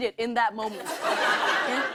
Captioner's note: laughter